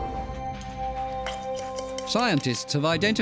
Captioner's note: scraping